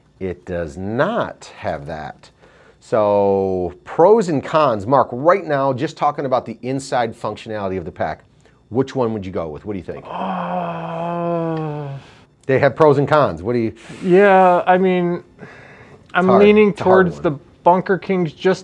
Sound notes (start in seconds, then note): 9.9 groaning